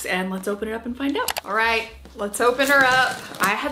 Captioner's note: mouse clicking